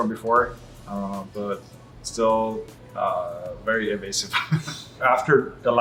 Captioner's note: laughs